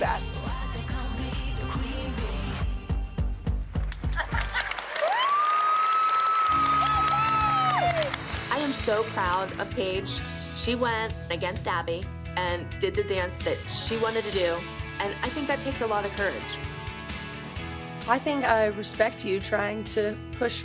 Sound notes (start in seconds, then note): 4.1 laughter; 4.2 cheering